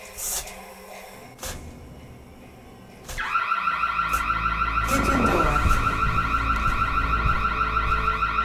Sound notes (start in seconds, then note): 3.1 sirens blaring